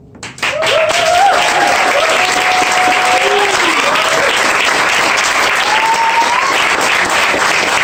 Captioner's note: audience clapping